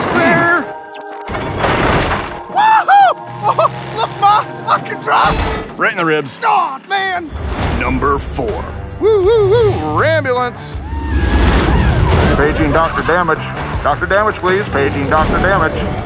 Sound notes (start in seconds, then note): 5.2 crash; 9.1 ambulance siren